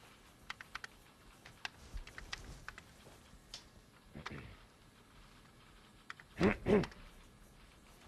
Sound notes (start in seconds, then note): 6.3 clearing throat